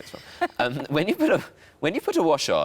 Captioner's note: laughs